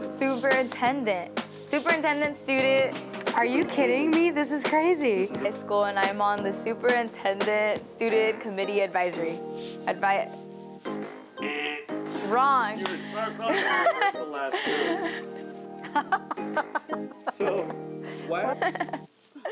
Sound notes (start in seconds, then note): 11.4 vocalizes buzzer; 13.7 laughs